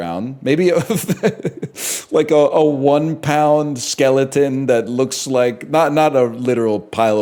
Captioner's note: laughs